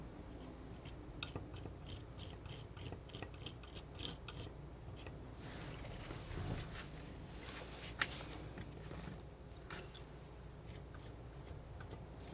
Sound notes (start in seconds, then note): 0.8 scratching